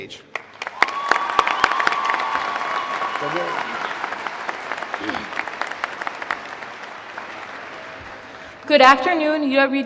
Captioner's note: applause